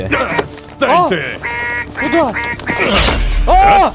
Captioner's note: goose squawks insults